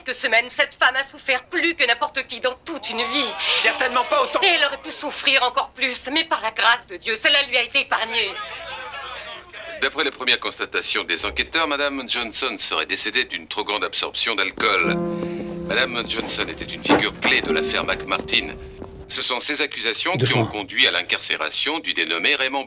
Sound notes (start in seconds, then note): 8.3 reporters clamoring